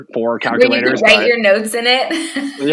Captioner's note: laughing